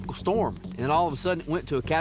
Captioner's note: none